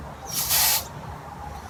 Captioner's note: sprays